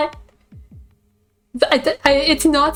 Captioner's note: stammering